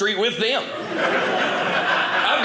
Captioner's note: audience laughing